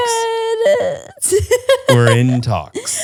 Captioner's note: laughs